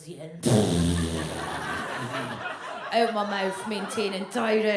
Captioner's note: blows a raspberry